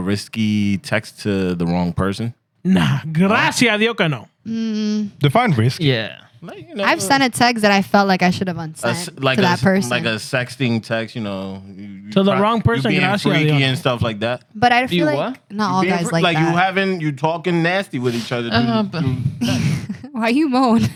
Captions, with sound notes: risky text to the wrong person? Nah. (Speaking In Foreign Language) Defined risk. Yeah. I've sent a text that I felt like I should have unsaid to that person. Like a sexting text, you know. To the wrong person. Like freaky and stuff like that. But I feel like not all guys like that. Like you having, you talking nasty with each other. Why you mode?